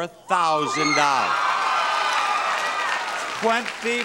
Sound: audience applauds

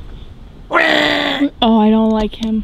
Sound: squirrel hisses

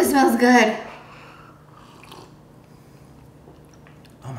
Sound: sipping

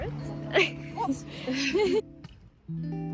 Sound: laughter

